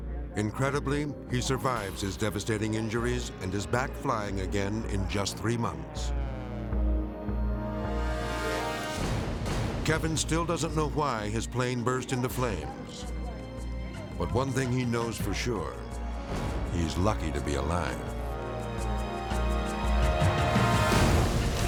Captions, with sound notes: Incredibly, he survives his devastating injuries and his back flying again in just three months. (plane whizzing) (gentle music) Kevin still doesn't know why his plane burst into flames, but one thing he knows for sure, he's lucky to be alive. (dramatic orchestral music)